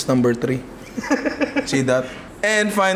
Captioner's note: laughs